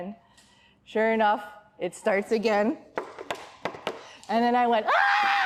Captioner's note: knocking; screams